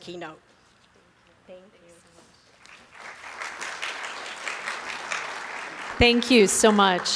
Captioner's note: applause